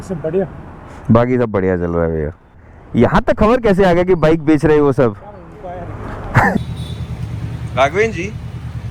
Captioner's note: laughter